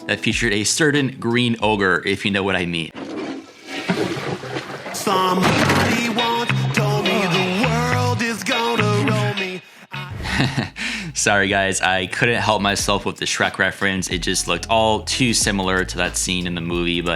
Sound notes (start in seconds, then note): 9.9 chuckles